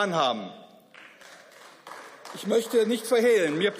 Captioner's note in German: Beifall